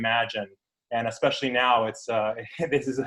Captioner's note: chuckles